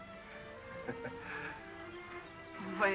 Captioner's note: laughs